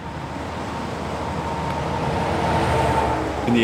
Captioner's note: cars and trucks on a super highway